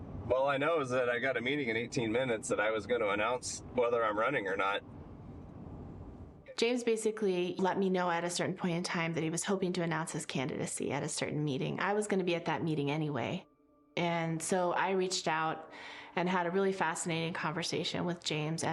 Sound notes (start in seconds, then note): none